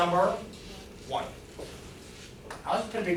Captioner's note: woman's Voice